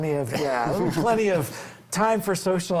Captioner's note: group laughs